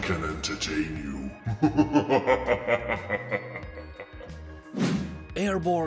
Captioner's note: laughs in demon